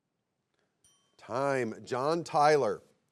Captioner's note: bell chimes